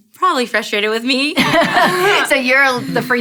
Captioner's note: laughing